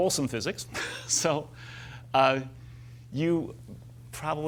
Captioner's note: laughs